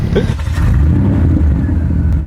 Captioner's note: engine revving